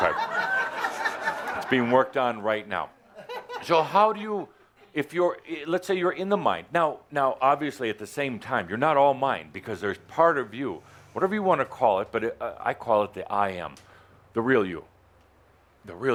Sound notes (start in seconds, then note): 3.0 laughter